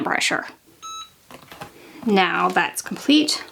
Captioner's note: beeps